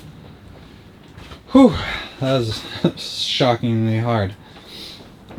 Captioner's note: exhales